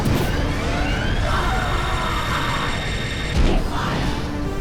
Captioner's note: gol screams